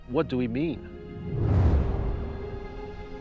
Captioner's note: rocket blasting